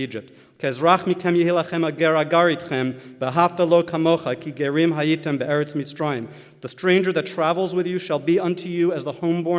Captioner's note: Hebrew